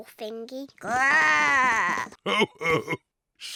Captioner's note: oinks; growls; chuckles